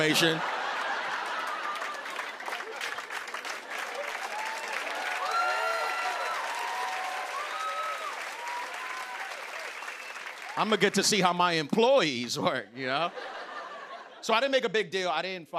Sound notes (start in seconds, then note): 0.2 laughter and applause; 5.0 cheers and applause